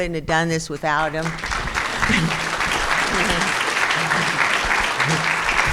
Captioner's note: crowd applauding